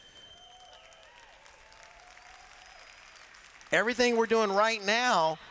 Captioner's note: applause